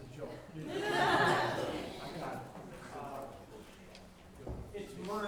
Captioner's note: laughter